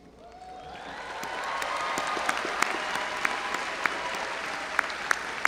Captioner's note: audience applauding